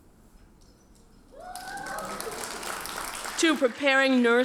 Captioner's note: audience cheers and applauds